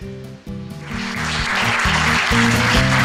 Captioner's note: applause